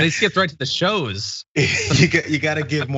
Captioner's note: laugh